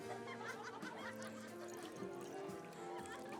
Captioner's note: laughing; cheery music